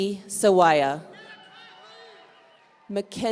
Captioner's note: audience cheering